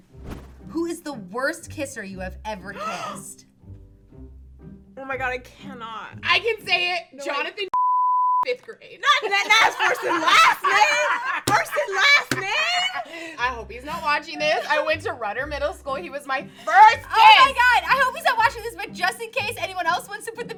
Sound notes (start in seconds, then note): 2.8 gasps; 7.7 beep; 9.3 all laugh